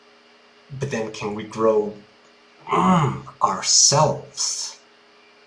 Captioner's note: grunt